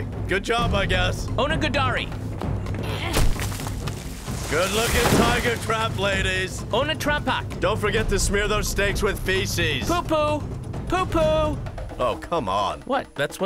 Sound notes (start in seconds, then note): 2.8 women grunt